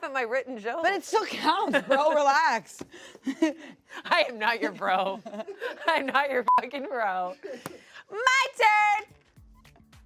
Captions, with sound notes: - You didn't laugh at my written joke. - But it still counts. Bro, relax. - I am not your bro. (everyone laughs) I'm not your (beep) bro. My turn!